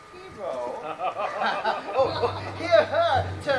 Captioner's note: Don John laughs